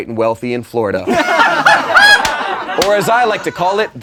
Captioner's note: laughing